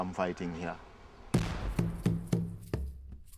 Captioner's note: gunfire mixed with drum music